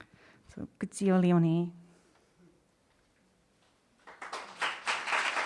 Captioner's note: speaks in foreign language; audience applauding